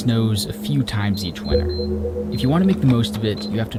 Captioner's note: pump beeping